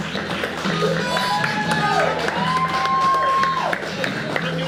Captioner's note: exciting guitar music; audience cheering